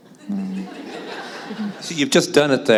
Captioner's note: laughter